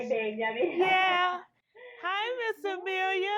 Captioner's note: laughing